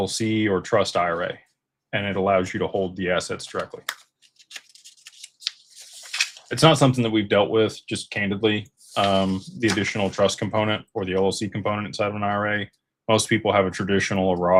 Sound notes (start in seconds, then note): none